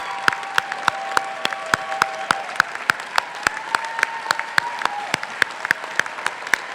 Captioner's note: crowd cheering and clapping continues